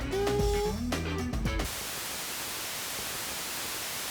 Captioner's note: <i> hums fanfare</i>